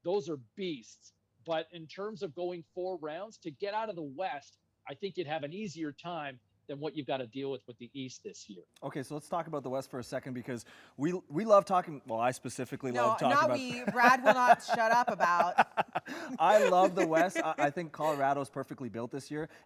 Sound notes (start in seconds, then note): 13.2 chuckling